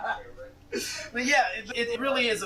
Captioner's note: laughter